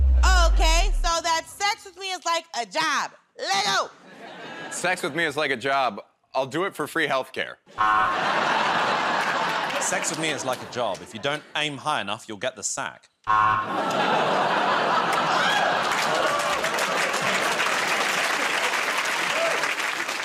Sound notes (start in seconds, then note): 7.9 laughter; 16.4 laughter